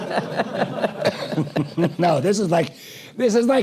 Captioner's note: laugh